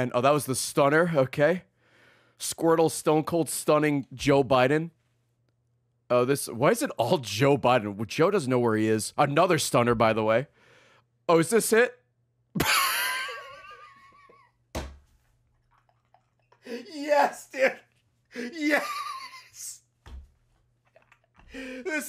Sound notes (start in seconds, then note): 12.6 laughs